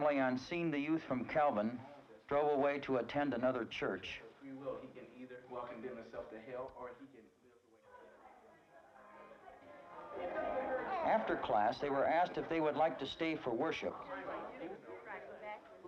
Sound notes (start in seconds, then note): 9.2 congregants chattering